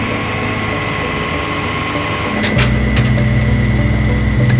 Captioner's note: truck humming